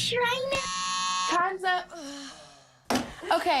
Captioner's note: buzzer noise